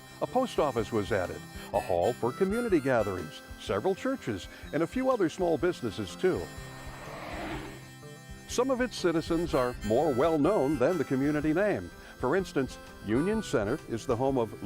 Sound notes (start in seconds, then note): 6.6 tires swish